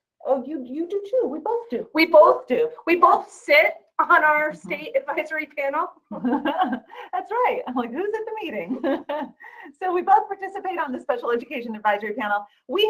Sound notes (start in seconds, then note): 6.1 laughing; 8.6 laughing